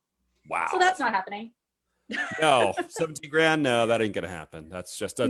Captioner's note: laughs